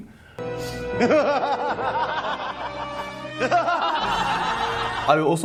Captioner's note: foreboding music; crowd cackles